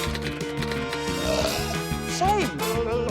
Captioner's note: burps; blubbers